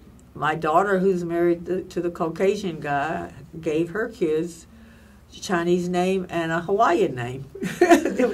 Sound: laughs

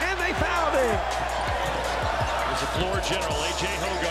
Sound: crowd cheers

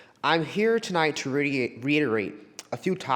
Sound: none

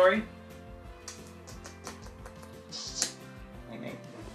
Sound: kissing

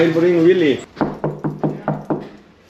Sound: knock knock knock

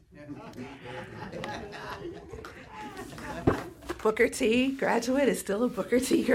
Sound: laughter

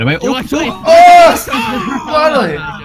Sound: shouting; laughter

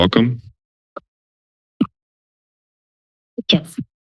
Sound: silence

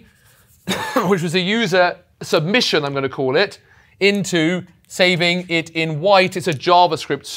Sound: cough

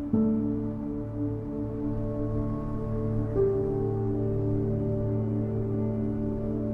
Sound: fast moving traffic and wind blowing

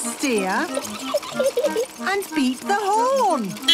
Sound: giggling; beeping

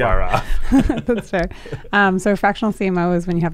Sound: laughing

